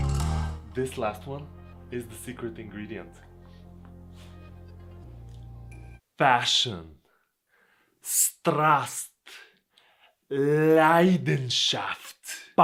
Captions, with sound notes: This last one is the secret ingredient. Passion Passion (in Bulgarian) Passion (in German)